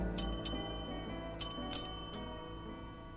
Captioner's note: bell rings